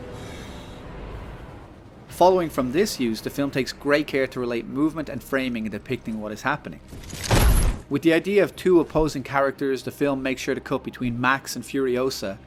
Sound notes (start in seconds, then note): 7.2 thump